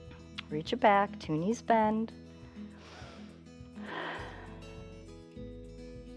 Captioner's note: inhales and exhales